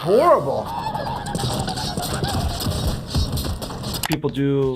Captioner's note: Cuddles gagging